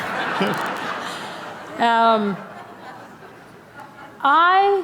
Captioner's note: laughter